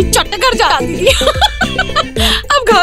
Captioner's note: Vandy and Ana laughing